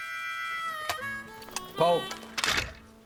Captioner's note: harmonica music; clicking sound; rifle clicks